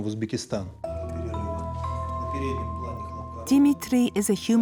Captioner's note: uzbek spoken language